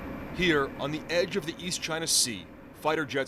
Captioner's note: voice-over